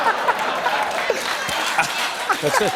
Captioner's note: laughter; laughter and applause